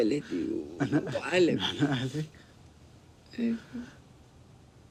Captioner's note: speaking in foreign language